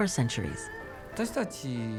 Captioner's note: speaking Japanese